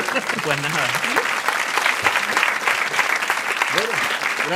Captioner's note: laughter and applause